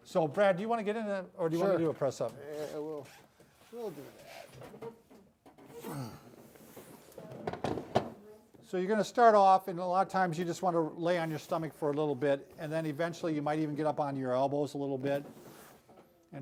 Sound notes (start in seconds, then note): 5.8 grunts